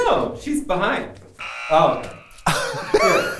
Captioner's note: buzzer